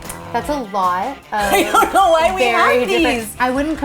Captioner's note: laughing